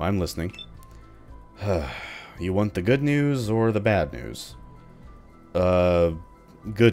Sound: sigh

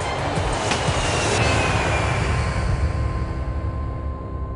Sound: jet engine whirring

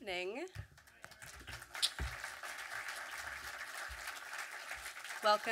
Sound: audience clapping

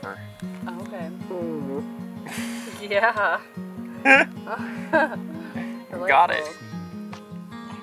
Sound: farting sound; laughter

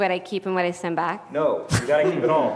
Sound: laugh

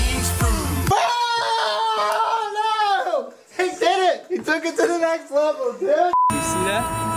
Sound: screams

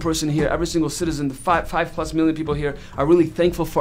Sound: none

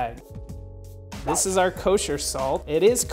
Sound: whooshing

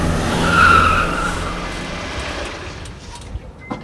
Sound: car screeches

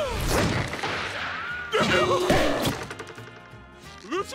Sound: yelling

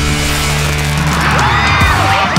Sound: crowd cheering

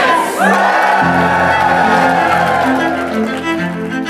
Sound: consultants cheering

